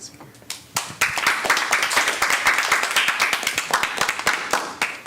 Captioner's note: audience applauding